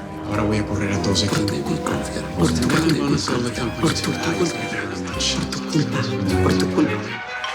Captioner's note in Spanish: Hablan al unísono